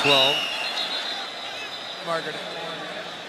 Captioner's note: whistles